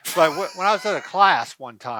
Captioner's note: laughs